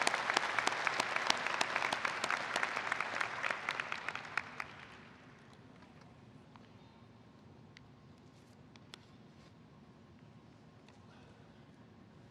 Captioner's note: applause